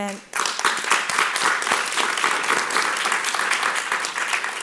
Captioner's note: audience applauding